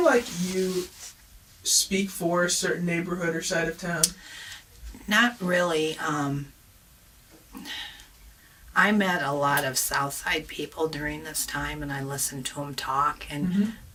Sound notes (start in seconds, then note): 7.5 sighs